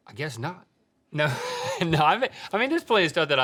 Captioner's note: laughing